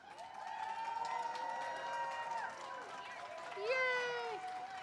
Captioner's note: audience cheers